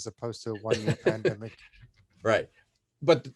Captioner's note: laughing